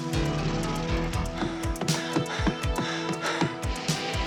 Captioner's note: heavy breathing